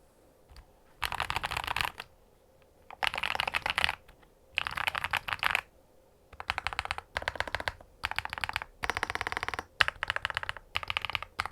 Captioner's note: keystroke sound